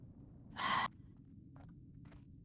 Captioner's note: sigh